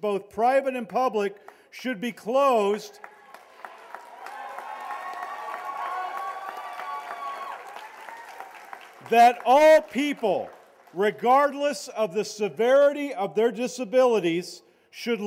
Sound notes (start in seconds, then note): 3.0 cheers and applause